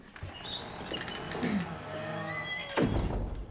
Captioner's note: door squeaks